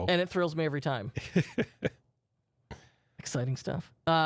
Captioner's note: softly chuckling